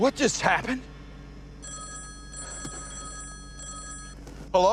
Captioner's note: phone ringing